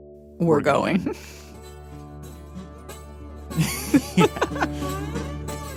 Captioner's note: laughs